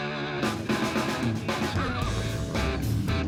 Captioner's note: horse neighs